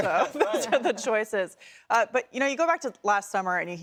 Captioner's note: laughter